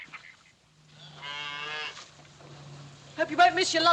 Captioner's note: cow Moos